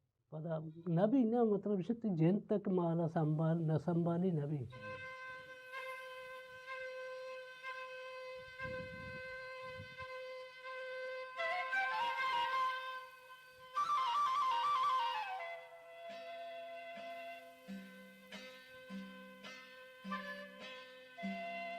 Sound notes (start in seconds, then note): 8.4 sound of wind blowing